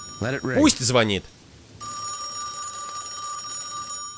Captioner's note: ringing